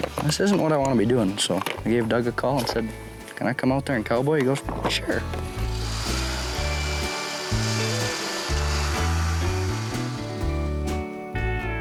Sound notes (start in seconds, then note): 5.5 drill whirring; 6.1 bright music